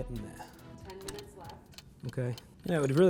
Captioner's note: alarm clock ticking